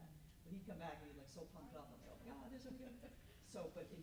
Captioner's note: mutters